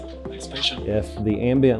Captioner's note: NATURAL SOUND at computer